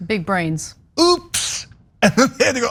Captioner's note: laugh